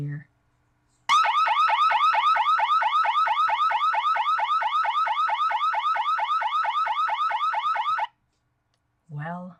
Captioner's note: intruder/burglar alarm sound effect